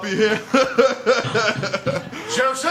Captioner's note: thump thump thump